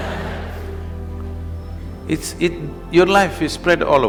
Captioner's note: laughter